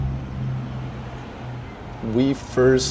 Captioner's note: passing vehicles' engines revving on the street